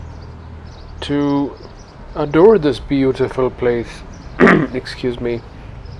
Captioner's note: clears throat